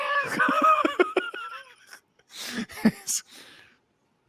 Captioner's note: laughs